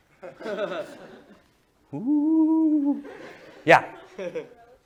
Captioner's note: laughter